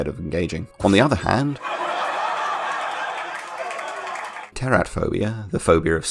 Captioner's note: laugh Track